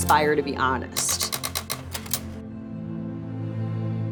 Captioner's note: camera shutter clicking